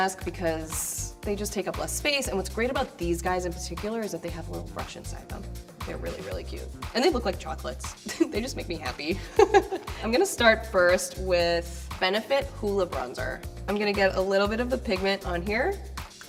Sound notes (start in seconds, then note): 9.3 laughing